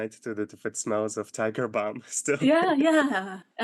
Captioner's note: laughing